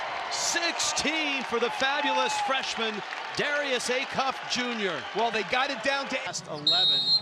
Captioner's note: buzzer